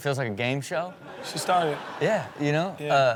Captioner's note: crowd laughing